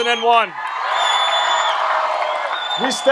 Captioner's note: audience applauds and cheers louder